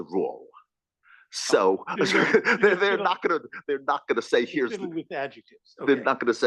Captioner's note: laugh